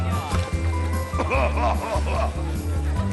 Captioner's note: laughter